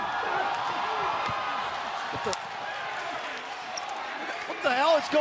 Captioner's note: cheers and applause